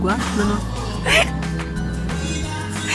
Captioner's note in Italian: risata